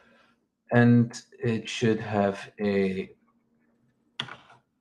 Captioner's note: keyboard clicks